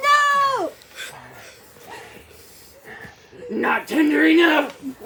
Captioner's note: intense sniffing